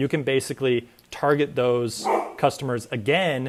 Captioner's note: bark